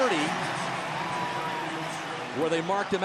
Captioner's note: cheering